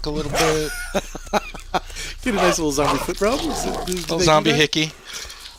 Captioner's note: laughing